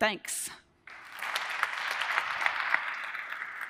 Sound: applause

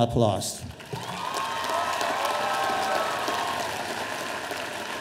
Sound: audience applauding

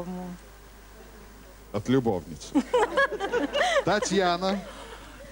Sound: laughter

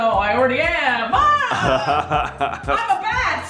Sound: laughing

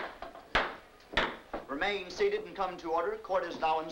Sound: gavel banging

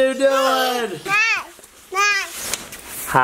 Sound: babbles

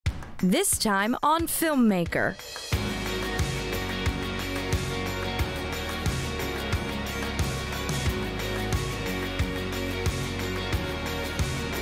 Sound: voiceover

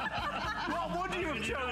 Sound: laughter

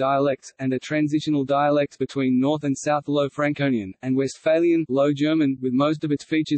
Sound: low German

